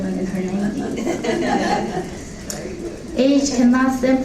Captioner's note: laughing